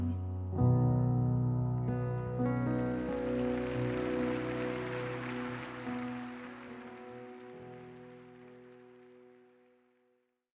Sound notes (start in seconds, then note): 2.6 audience applauding